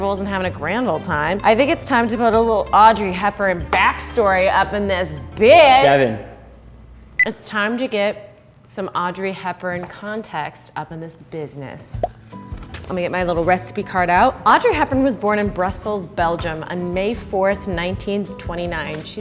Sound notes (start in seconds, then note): 7.2 beeping; 12.0 popping